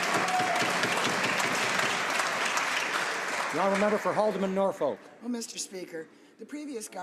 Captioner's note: some Applause